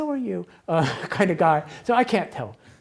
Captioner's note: laughs